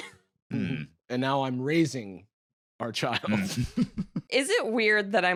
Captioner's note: chuckles